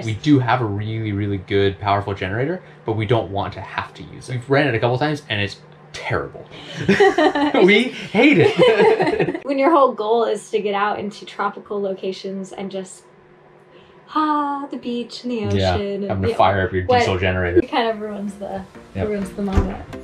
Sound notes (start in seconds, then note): 6.5 both laugh